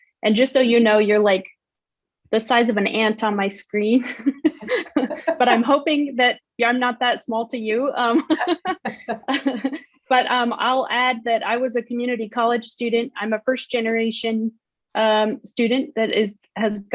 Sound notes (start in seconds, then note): 4.1 laughs; 7.7 laughs